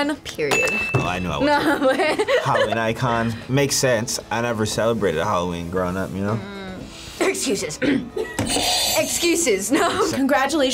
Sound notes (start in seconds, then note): 7.8 coughs; 7.8 clears throat; 8.5 buzzer rings; 10.3 laughs